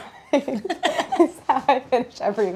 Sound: laughter

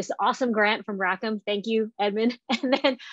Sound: laughing

